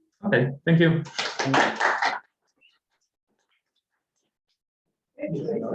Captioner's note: applause